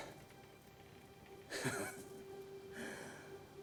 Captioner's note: laughs